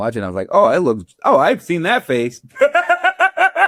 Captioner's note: laughs